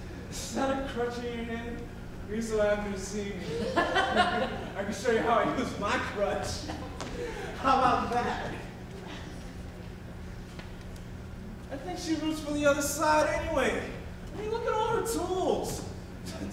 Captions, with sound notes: Is that a crutch in your hand or are you so happy to see me? (gross person laughs) I can show you how I use my crutch. How about that? I think she roots for the other side, anyway. I mean, look at all her tools.